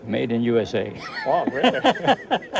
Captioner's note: Ferencz laughs